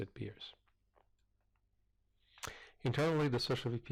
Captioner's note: pause